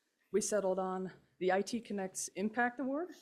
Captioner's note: none